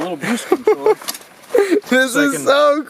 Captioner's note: laughing